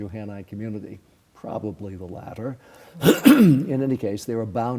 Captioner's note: clears throat